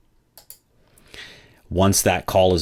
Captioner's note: computer moue clicking